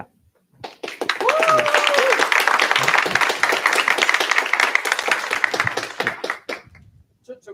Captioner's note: applause